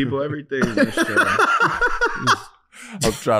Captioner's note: laughing